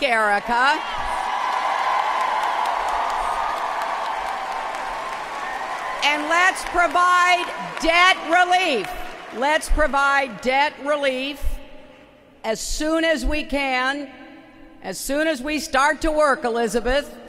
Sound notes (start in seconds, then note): 0.0 applause; 7.2 applause